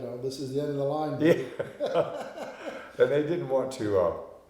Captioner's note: both laughing